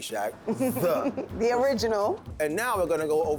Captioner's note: laughs